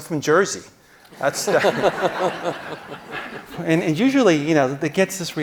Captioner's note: audience laughing